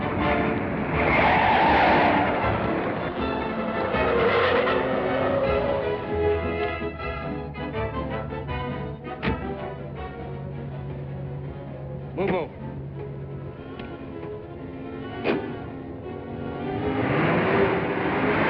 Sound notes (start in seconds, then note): 0.0 tires screeching; 13.1 suspenseful music